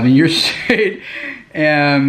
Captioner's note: laughs